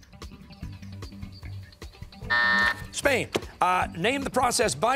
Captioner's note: buzzer sounding